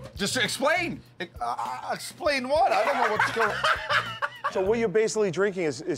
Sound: laughs

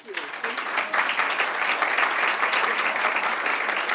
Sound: audience claps

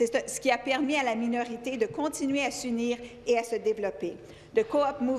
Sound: speaking French

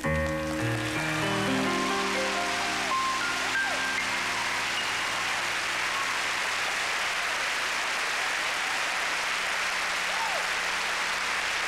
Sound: applause

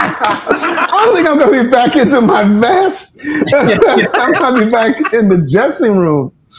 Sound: laughing

